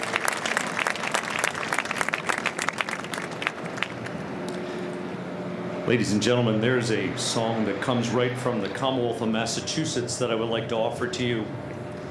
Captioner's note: applause